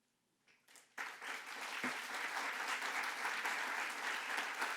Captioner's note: audience clapping